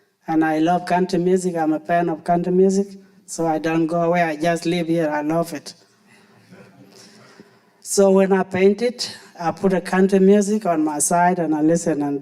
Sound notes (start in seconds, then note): 6.3 audience laughing